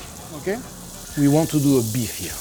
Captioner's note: meat sizzling